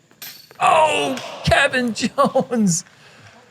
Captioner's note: chuckles